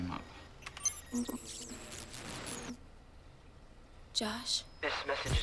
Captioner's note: static crackling